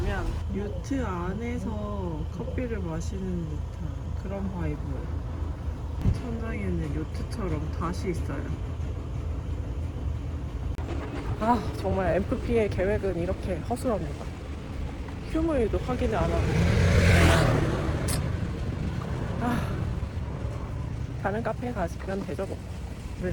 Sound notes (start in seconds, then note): 17.3 sigh